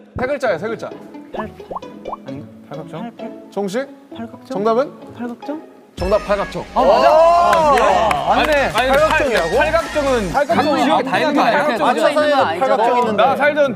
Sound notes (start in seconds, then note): 7.4 applause